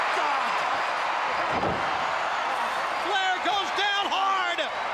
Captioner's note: crowd cheering